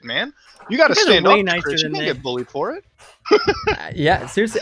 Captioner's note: laughs